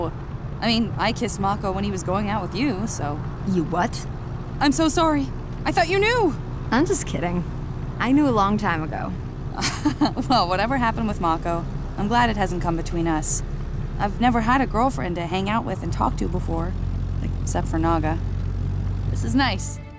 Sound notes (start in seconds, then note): 9.5 laughing